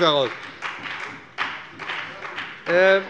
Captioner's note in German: Heiterkeit und Beifall bei dem BÜNDNIS 90/DIE GRÜNEN